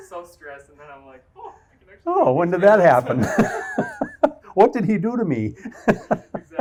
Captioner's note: laughs